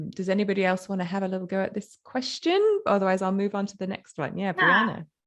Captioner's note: none